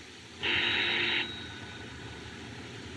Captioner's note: ringing